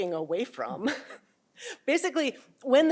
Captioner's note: chuckling